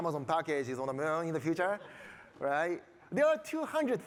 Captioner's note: audience laughing